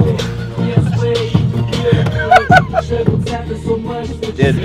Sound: cracking up

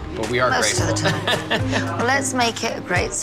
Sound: laughs

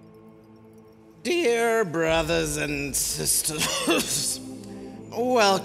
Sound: coughs

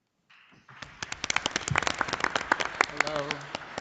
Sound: audience applauding

